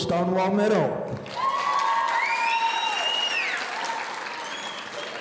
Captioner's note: audience cheering